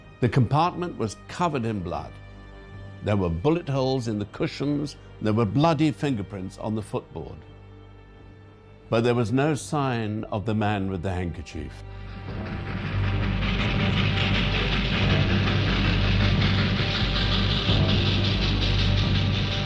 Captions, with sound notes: The compartment was covered in blood. There were bullet holes in the cushions, and there were bloody fingerprints on the footboard. But there was no sign of the man with the handkerchief. (train rattling) (ominous orchestral music)